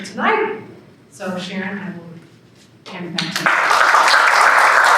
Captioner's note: applause